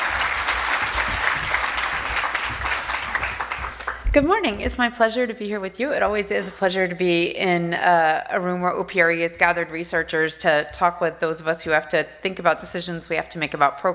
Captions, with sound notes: DAYS, SO I'LL TURN IT OVER TO SHANNON. [ APPLAUSE ] >> GOOD MORNING. IT'S MY PLEASURE TO BE HERE WITH YOU. IT ALWAYS IS A PLEASURE TO BE IN A ROOM WHERE OPRE HAS GATHERED RESEARCHERS 971 00:37:29,726 --> 00:37:32,099 TO TALK WITH THOSE OF US WHO HAVE TO THINK ABOUT